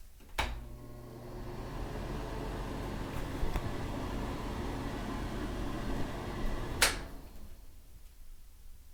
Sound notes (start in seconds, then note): 0.2 click; 0.4 exhaust Fan Turning On; 0.6 exhaust Fan Running; 6.7 exhaust Fan Stopping; 6.7 click